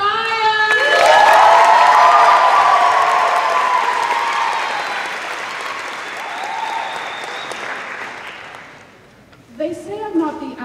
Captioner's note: cheers